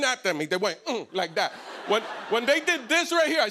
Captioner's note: laughter